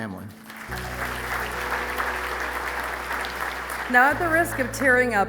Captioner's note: audience applauding